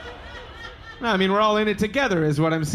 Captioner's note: audience laughing